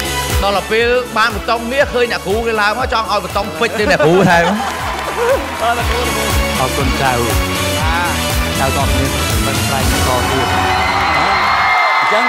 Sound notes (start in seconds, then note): 3.8 laughter